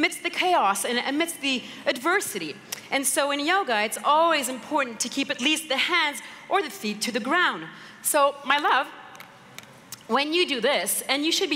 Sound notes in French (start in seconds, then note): none